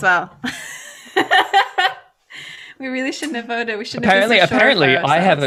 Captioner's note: laughs